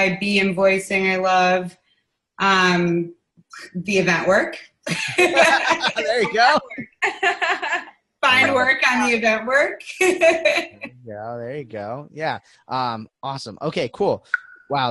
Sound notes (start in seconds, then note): 4.9 laughing